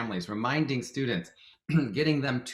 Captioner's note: clears throat